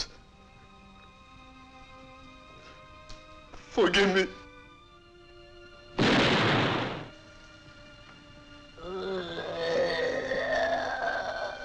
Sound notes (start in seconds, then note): 6.0 gun firing; 8.7 moaning